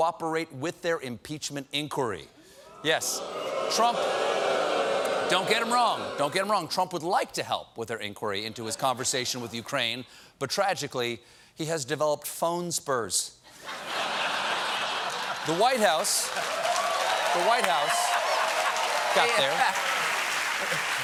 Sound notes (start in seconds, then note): 2.6 booing; 13.5 laughter; 14.8 cheers and applause